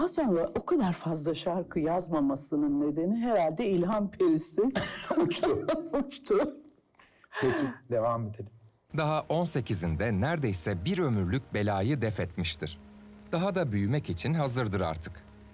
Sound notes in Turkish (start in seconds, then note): 6.7 Gülüyor